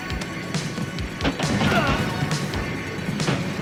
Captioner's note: grunting